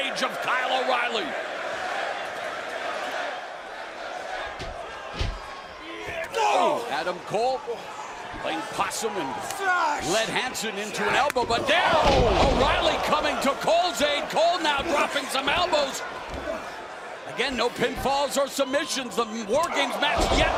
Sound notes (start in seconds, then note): 2.9 crowd chatter